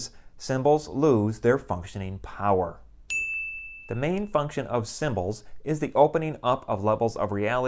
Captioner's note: chime